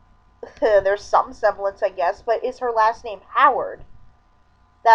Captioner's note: chuckle